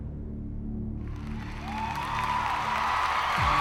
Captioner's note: crowd cheering